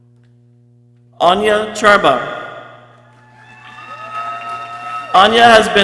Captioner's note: people cheering